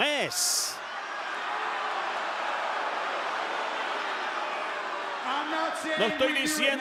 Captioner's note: applause